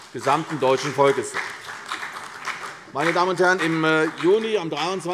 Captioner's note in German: Beifall CDU und BÜNDNIS 90/DIE GRÜNEN